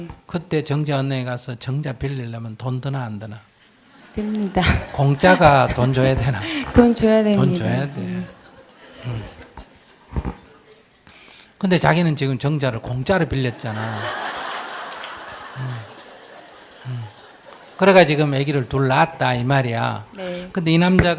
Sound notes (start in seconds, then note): 3.9 audience Laughter; 4.1 questioner Laughter; 13.4 audience Laughter